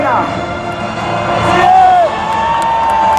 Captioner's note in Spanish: aplausos